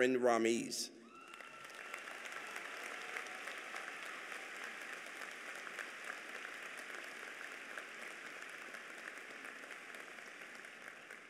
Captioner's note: applause